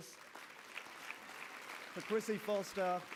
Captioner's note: applause